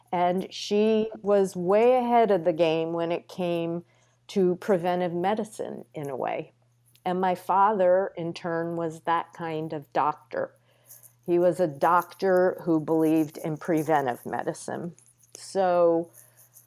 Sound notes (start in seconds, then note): none